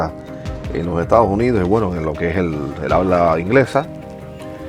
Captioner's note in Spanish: habla inglesa